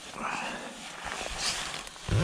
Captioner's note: sighs